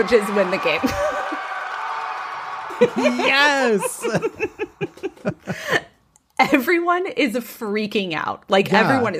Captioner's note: laughs